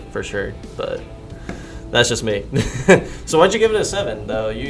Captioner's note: laughing